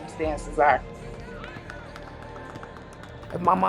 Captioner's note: crowd cheering